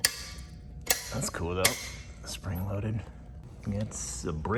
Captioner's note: knob clicks